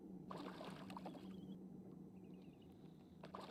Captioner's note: splash